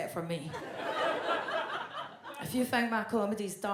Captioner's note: audience laughs